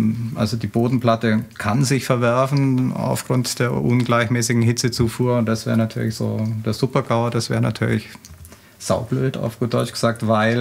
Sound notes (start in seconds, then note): none